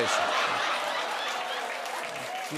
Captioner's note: laughter, cheers, applause